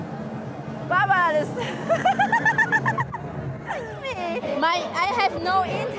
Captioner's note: laughs